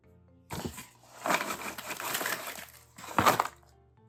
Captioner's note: cereal ambience